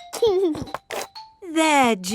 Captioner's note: giggling